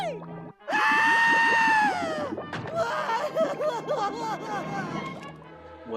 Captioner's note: STIMPY: *sobbing